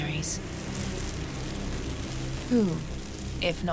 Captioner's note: grains clattering